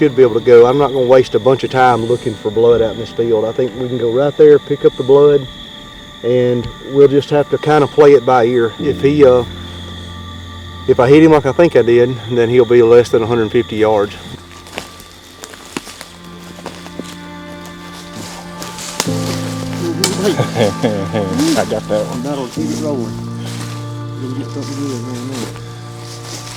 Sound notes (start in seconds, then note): 15.5 sound of walking; 19.9 laughter; 22.3 soft music